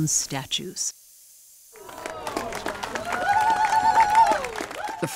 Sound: crowd applauds

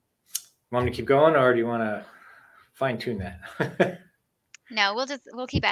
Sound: laughs

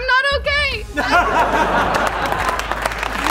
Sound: laughing

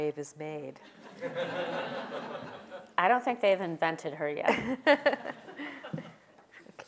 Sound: laugh

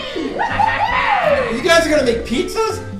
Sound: characters cheer; voiceover

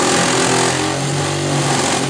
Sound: saw sounds

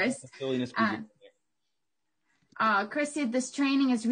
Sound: faintly speaking

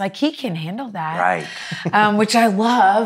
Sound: chuckles

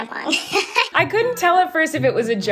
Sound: laughs

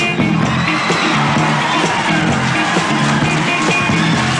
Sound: audience applauding

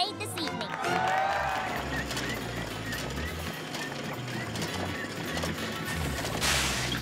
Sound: squeaking

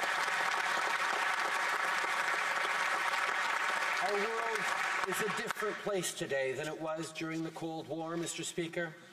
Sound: applause

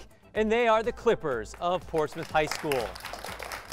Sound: applause

